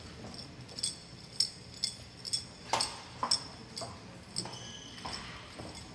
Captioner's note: bells ringing